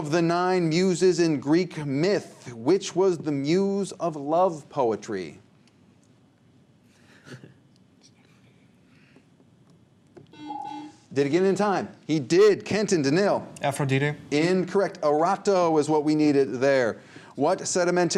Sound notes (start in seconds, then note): 10.3 buzzer